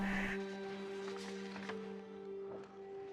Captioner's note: dramatic music; birds chirping; gentle music